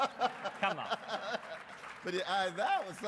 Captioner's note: audience applauds